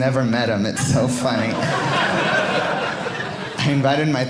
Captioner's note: audience laughing